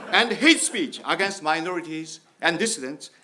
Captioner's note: audience laughs